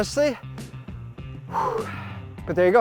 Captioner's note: takes deep breathe